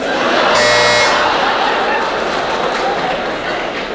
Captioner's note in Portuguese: campainha